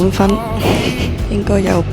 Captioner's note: laughs